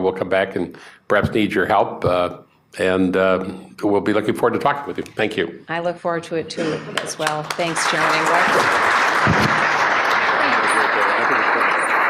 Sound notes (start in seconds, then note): 10.7 applause